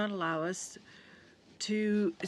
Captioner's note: speaking in french